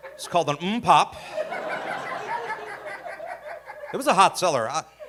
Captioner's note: audience laughing